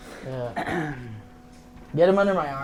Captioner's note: clears throat